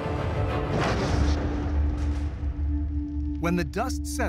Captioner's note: loud impact